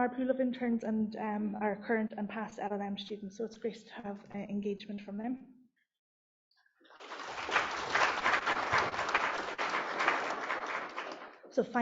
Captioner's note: applause